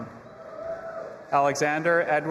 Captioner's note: audience applauding and cheering